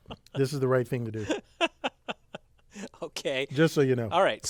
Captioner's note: laugh